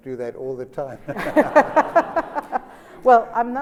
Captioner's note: laughter